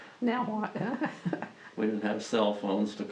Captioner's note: laughs